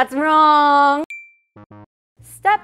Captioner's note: ping; buzzer sounds